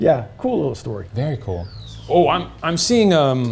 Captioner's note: slide whistle tooting